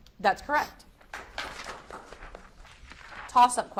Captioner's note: audience applauds